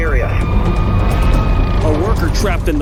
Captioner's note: siren wailing